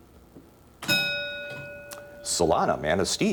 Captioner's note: ding